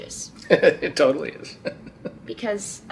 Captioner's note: dad laughing